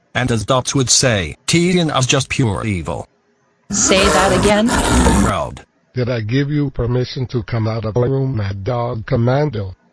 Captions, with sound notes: And as DotZz would say, Tiyana's just pure evil. -Say that again?! -Oh, crud! (snow leopard growling) Did I give you permission to come out of our room, Mad Dog Commando?!